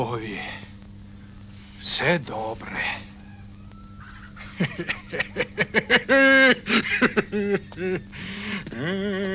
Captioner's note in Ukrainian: сміх